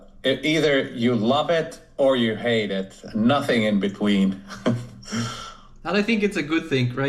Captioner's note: chuckles